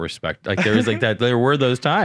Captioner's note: laughing